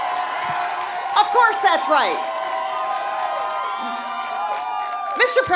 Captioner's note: applause